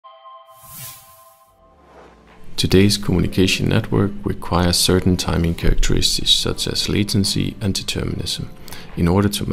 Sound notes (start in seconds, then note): 0.5 chimes; 1.6 whoosh